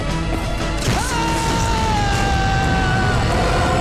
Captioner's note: Screams in pain